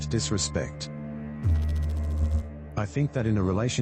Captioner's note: electrical noise